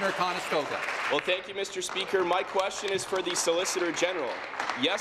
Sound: applause

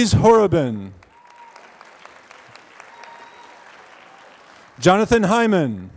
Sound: applause

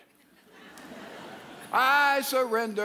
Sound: audience laughs

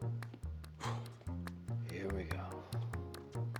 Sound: Marshall blowing

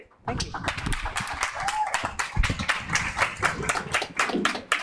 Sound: audience clapping

